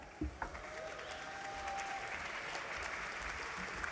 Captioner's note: applause